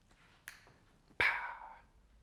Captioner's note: snapping fingers